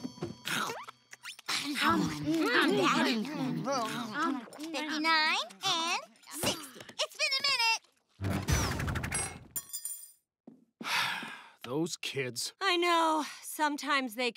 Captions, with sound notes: 59, and 60. It's been a minute. [sighing] Those kids. I know sometimes they can be-